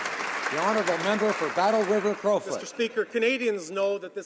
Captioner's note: applause